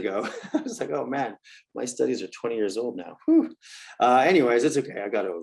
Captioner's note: laugh